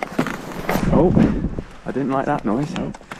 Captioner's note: crack